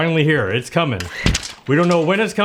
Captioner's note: machine whirs